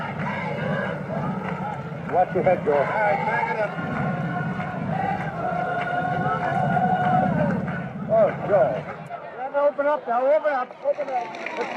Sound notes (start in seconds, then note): 4.1 people singing and clapping; 6.4 talking in background